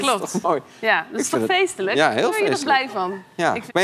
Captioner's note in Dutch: gelach